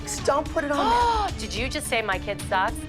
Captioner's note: gasps